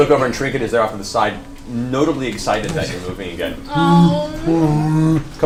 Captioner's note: bear noises